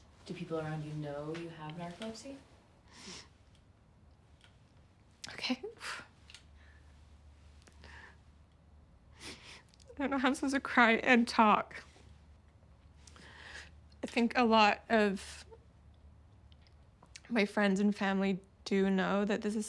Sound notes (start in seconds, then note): 3.2 soft sob; 5.8 exhales; 6.5 quiet sob